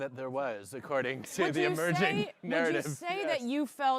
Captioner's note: chuckling